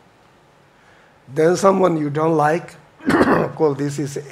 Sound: coughs

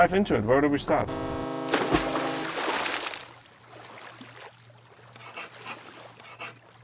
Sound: boat horn blares; water splashes; text scribbling

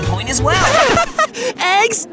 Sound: Harold laughs

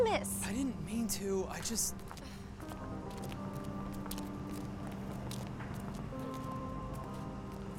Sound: footsteps

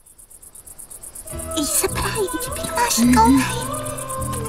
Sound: children chattering; romantic music; women singing

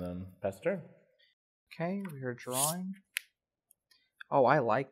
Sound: skims card

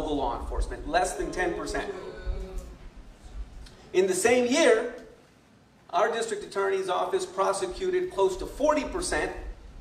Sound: booing

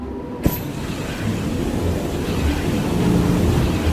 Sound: power whirling

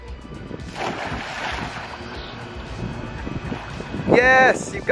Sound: splashing

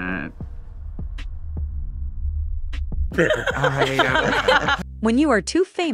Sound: laughing

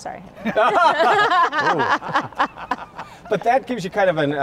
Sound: laughs

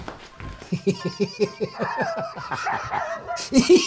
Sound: Ollie giggles as dog barks

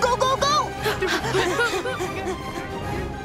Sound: panting

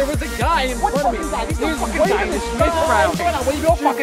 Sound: shouting

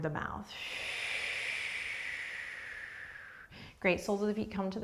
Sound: exhaling breath

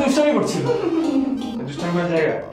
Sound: Nature chuckling

